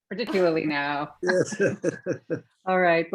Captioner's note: laughs